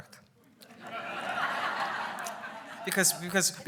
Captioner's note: laughs